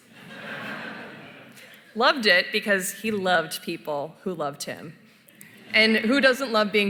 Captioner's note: laughter